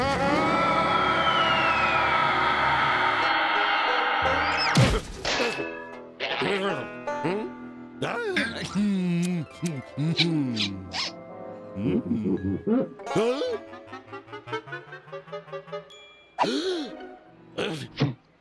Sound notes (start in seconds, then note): 11.6 pumpkin squeaks; 16.0 gasps